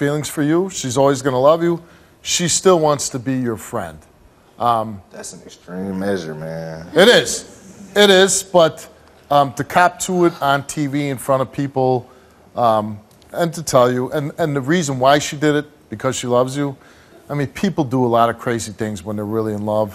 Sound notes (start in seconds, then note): none